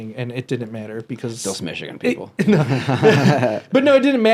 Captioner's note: laughs